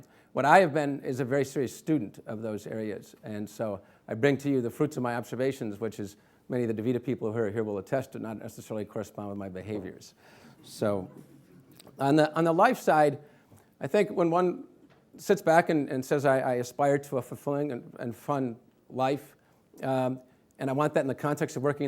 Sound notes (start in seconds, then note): none